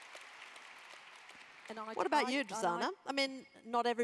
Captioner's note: applause